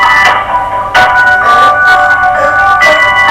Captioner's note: upbeat music; phone ringing